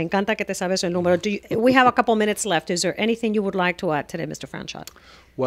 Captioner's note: Hablando ingl\s